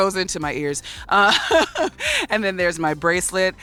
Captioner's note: laughs